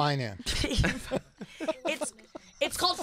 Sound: laughing

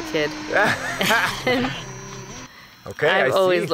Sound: both laugh

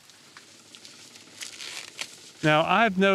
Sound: corn breaking off

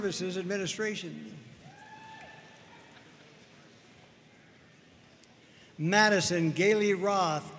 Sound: audience cheering and applauding

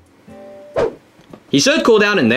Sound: air whooshing

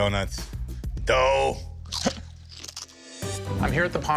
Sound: crunching sounds

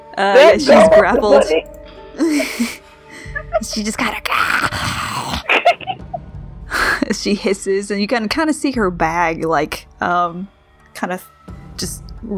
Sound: growling hiss

